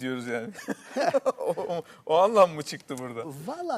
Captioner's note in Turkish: kahkaha